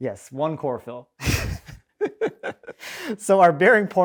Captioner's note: laughing